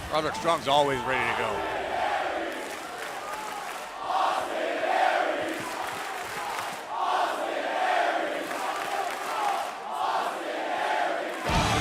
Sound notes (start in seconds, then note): 3.8 crowd cheering